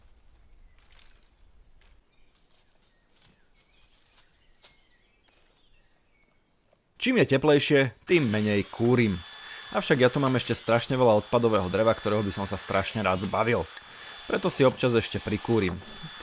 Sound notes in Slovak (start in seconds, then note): none